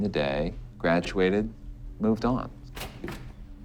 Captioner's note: door opens